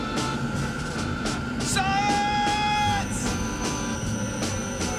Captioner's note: shouting